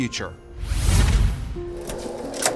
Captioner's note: air whooshes; gentle music